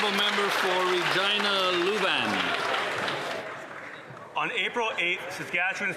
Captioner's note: some Applause